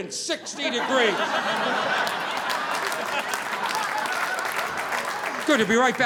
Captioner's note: audience laughing